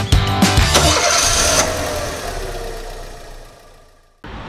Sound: engine starts

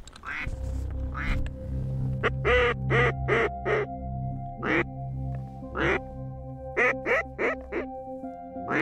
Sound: duck calls

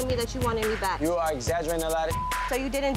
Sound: beep

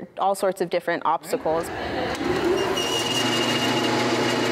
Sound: machine whirring

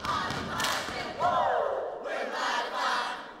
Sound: all whoop

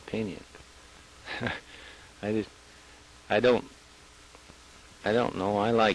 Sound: chuckles

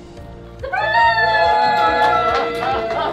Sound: gentle music; crowd

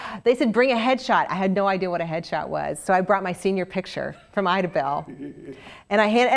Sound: laugh

